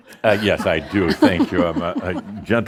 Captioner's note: chuckles